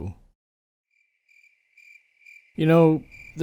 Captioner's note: cricket Noises